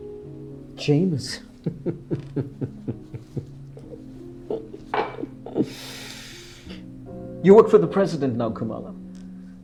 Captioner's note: laughter